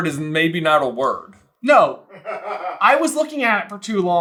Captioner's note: laughing